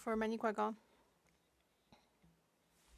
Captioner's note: speaking French